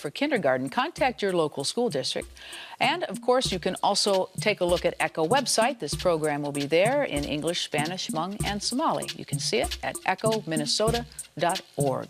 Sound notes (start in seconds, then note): none